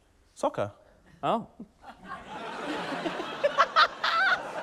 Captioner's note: laughter